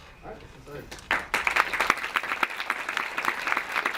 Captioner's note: clapping